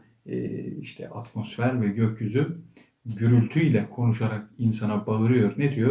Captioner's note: atmosphere and sky talking thunderously to man